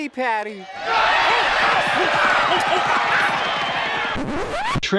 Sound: crowd cheers

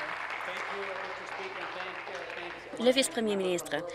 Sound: applause

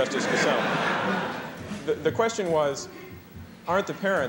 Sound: laughter

